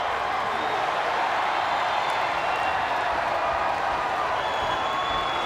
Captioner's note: crowd cheering continues